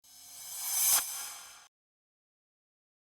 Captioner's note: swish